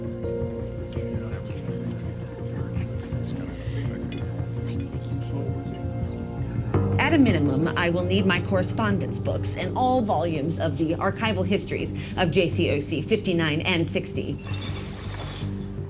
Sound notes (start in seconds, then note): 1.1 people murmuring